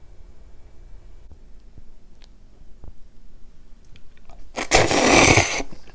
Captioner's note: slurp~